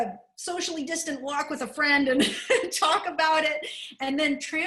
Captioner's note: laughter